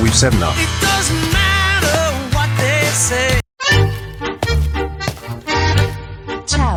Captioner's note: footsteps